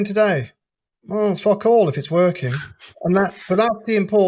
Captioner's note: laughs